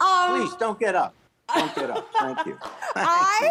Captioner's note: laughs